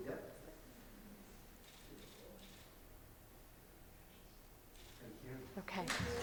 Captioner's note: audience applauding; camera clicking